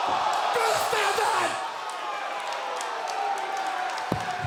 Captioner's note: crowd jeers